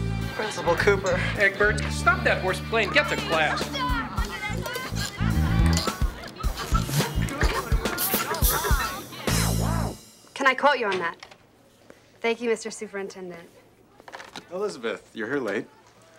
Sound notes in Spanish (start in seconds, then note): 4.1 estudiantes murmurando